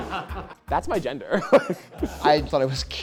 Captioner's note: everyone laughing; laughs